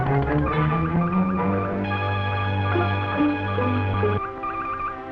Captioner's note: morse key beeping